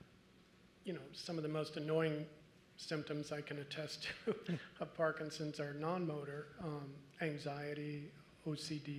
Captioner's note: laugh